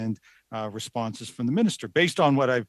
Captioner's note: speaking French